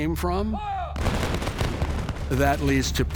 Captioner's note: gunfire popping